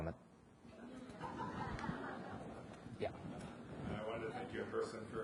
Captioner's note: audience laughs